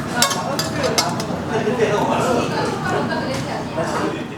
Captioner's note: people chattering